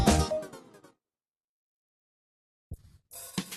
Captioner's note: silence